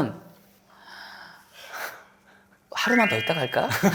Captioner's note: gasp